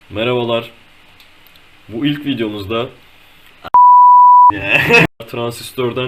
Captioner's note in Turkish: Beep Sound